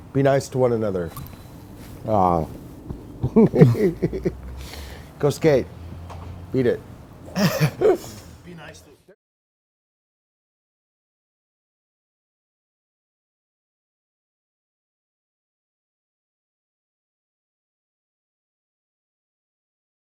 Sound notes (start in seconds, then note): 3.2 laughs